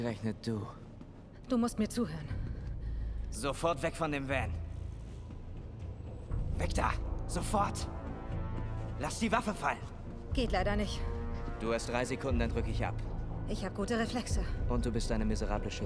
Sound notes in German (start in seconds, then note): none